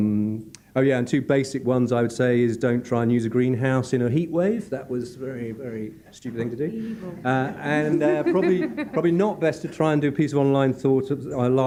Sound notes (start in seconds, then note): 6.2 laughing